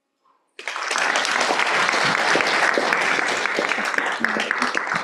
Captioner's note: applause